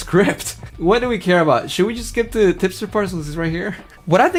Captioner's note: laughs